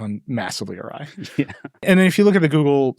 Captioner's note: chuckles